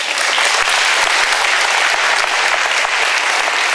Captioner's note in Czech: potlesk